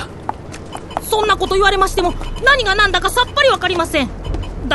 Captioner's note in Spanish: beeps del dispositivo de Steevo